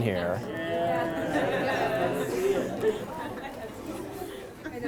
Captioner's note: laughter